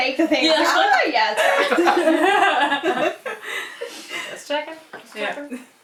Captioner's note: laughter